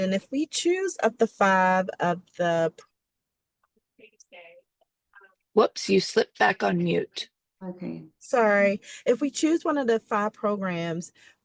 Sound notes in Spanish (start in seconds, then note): 4.1 conversación confusa